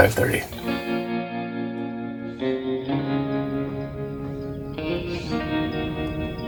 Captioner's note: birds chirping; lively music